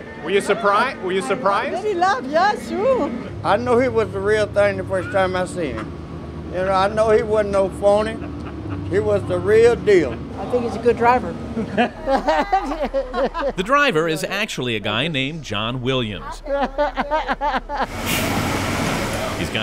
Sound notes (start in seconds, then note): 11.5 laughing; 16.1 laughing